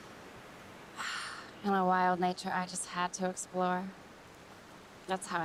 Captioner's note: sighs